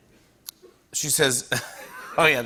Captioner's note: laughs